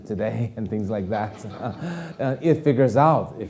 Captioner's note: audience laughing